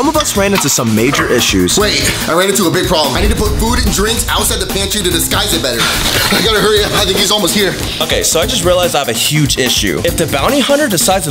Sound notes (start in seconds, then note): none